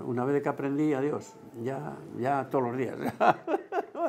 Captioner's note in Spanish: ríe